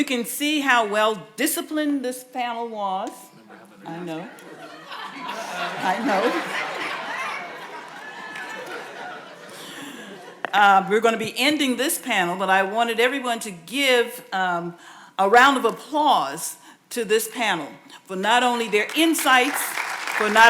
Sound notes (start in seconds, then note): 4.1 audience laughing